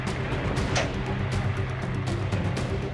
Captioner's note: door slamming shut